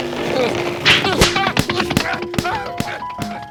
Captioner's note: slapping noises